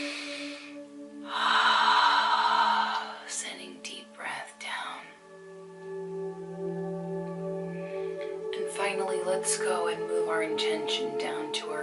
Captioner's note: breathes deeply